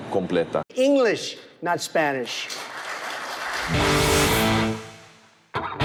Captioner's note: audience applauding; upbeat rock music